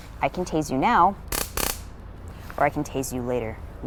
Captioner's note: taser buzzing